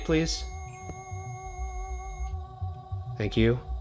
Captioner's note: continuous beeping